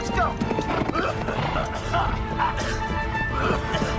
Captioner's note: both coughing